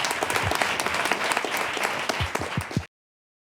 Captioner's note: applause